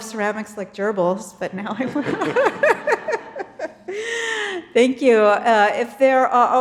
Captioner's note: laughs